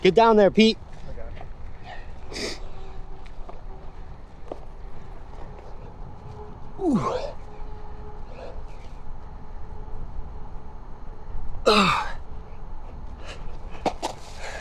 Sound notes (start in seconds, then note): 6.8 grunting; 11.6 grunting